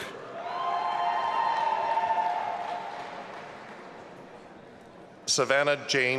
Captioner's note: audience applauding and cheering